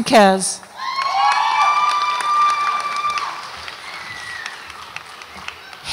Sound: audience applauds and cheers

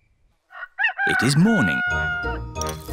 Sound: rooster crows

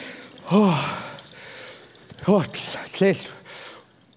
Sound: foreign speaking

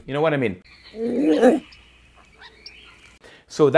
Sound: growls

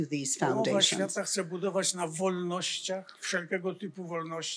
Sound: foreign language

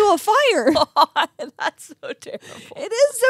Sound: laughs

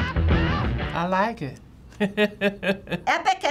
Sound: tempo speeds up; chuckling

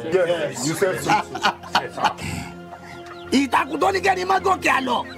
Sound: men speaking in foreign language

